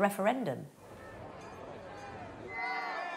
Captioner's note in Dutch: publiek praat; klokken luiden